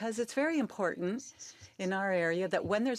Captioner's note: speaking French